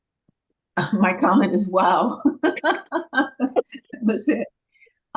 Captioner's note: laughs